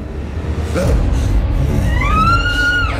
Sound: killer growls; Morgan screaming; Killer grunting

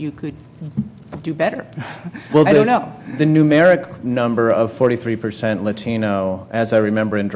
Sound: laugh

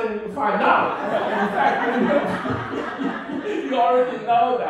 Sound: laughing

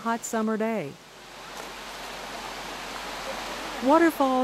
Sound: splashing and Rushing Water

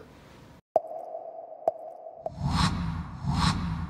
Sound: popping; air whooshing

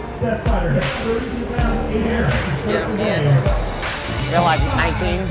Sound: faint general announcement

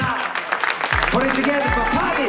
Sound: crowd clapping

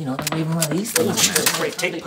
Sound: gun cocks

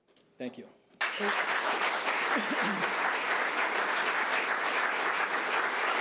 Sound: audience applauding

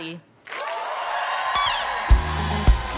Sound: applause

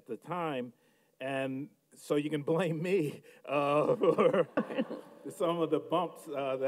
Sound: laughs

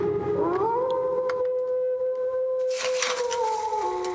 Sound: wolf howling

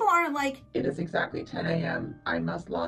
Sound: robotic Voice

